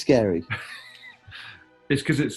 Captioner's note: chuckling